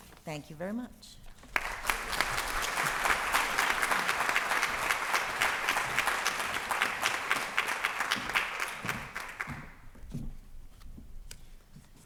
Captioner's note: applause